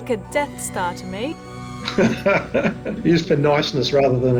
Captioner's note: laughs